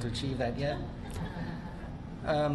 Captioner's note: laughter